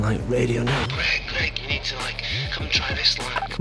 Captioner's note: Steve on radio